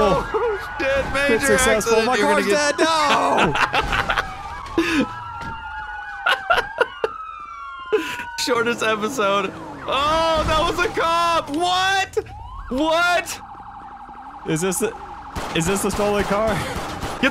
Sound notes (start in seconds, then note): 3.0 laughing; 6.1 more Laughing